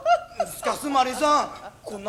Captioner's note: really strong rural dialect